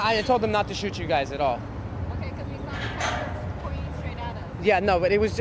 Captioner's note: street noise